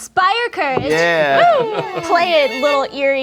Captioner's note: group cheers